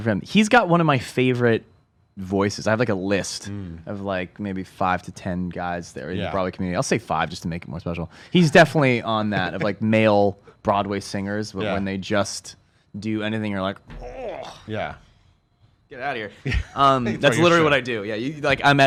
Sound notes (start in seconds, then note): 16.4 laughs